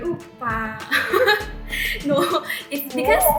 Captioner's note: laugh